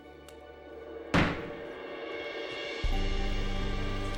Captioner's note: gavel bangs